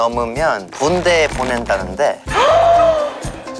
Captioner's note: grits teeth